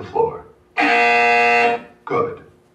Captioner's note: loud BZZZZZZ